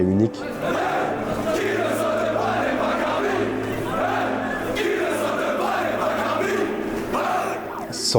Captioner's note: chanting